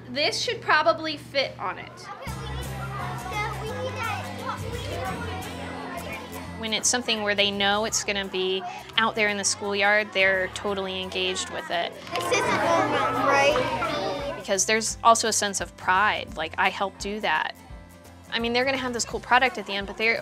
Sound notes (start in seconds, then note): 4.3 talking excitedly